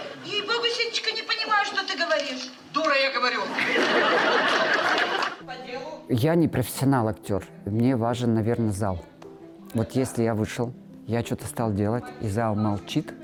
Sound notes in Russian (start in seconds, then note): 3.4 звучит смех